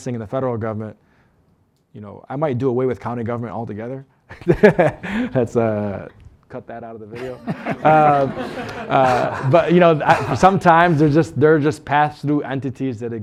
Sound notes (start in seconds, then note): 7.1 laughter